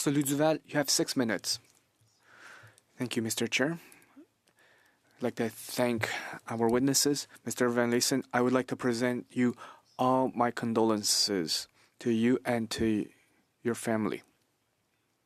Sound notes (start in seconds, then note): 7.5 speaking French